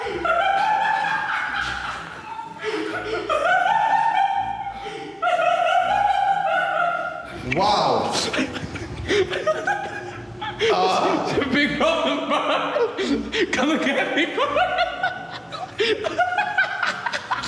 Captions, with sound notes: (laughter continues) - Wow. (laughter) - Ugh! - Big problem, bro? Come and get me, bro. (laughter)